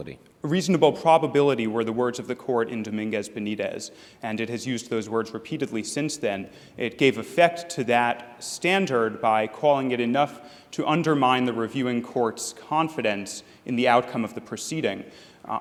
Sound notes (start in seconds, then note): none